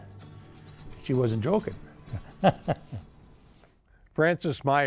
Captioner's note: laughs